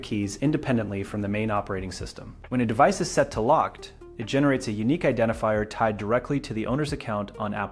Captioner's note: speak with helpful clarity